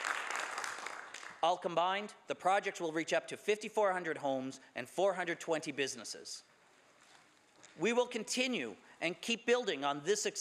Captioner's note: some Applause